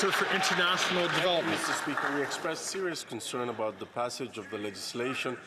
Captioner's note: some Applause